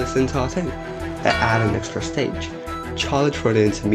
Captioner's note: bonk